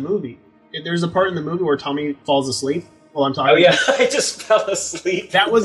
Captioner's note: laughing